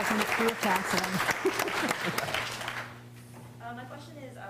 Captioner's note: applause